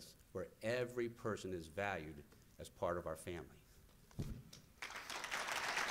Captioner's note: applause